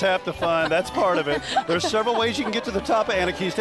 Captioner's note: laughing